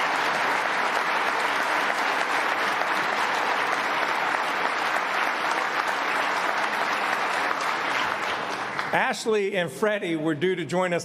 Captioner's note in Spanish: aplausos